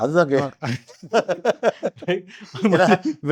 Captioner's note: laughing